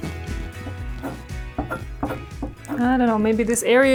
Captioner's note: soft guitar music continues; chisel clanking